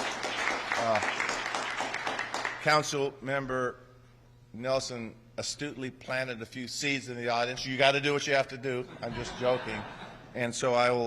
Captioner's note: applause